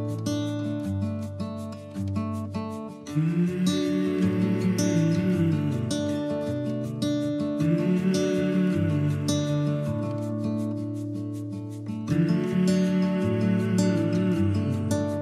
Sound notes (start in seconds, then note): 3.1 soft humming